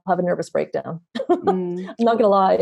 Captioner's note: laughing